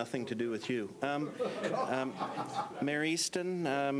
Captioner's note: laughs